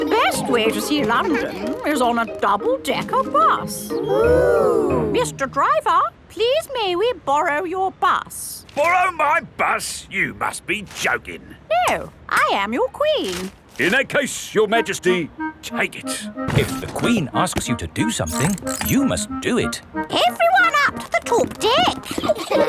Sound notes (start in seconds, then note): 4.1 kids gasps in awe